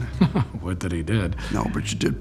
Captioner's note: chuckles